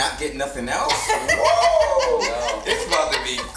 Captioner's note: laughs